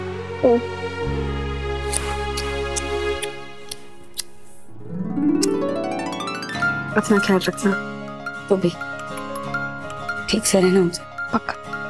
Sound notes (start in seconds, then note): 1.9 kissing